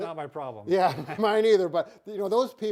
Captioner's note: both laughing